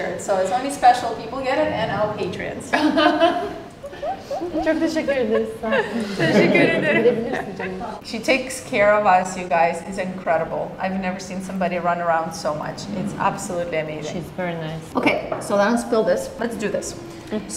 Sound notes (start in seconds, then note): 2.7 everyone laughing; 5.5 group chattering